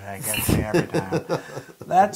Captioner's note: laugh